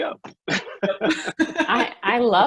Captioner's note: laughs